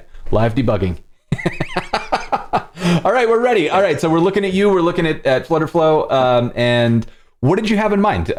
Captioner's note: laughter